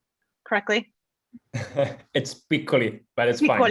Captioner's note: laughs